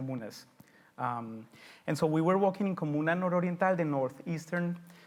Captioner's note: speaks foreign language